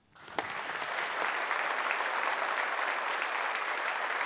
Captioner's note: audience applauding